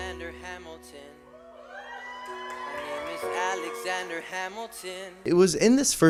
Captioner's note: whoops and cheers from audience